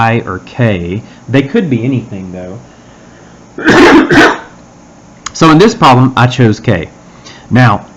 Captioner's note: cough